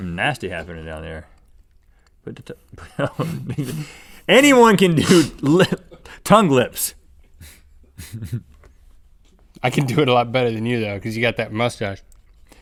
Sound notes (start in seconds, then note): 2.9 laughs